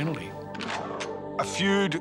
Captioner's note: gun cocks